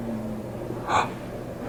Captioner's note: gasp